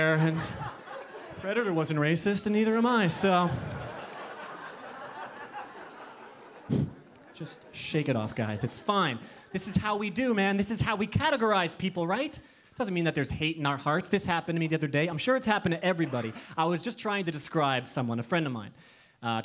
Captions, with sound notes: "and predator wasn't racist and neither am I so." (audience laughing) Just shake it off guys it's fine. This is how we do man, this is how we categorize people right? Doesn't mean that there's hate in our hearts. This happened to me the other day, I'm sure it's happened to everybody. I was just trying to describe someone, a friend of mine,